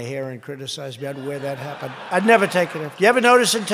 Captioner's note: laughter